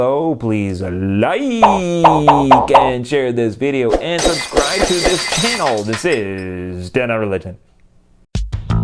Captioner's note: popping noises